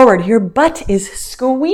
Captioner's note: none